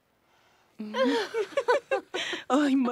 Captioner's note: riendo